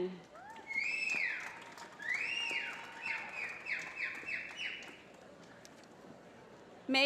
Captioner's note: applause